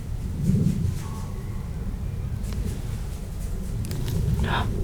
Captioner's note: little footsteps